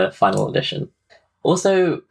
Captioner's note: none